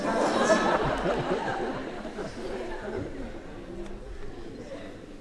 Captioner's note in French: rires